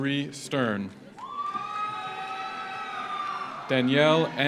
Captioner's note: audience applauds; audience cheers